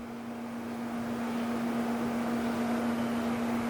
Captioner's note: distant whirring